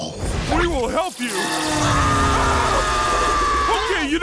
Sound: screaming

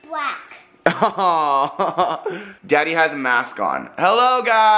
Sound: laughs

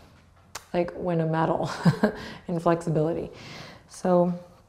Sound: chuckles

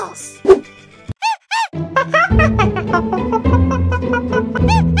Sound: monkey calls

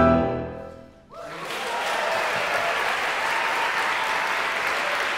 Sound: applause

